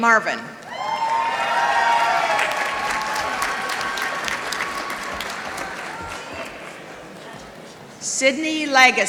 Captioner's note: applause